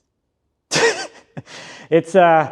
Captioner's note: laughs